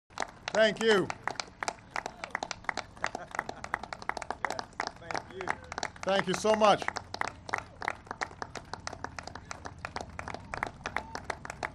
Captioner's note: applause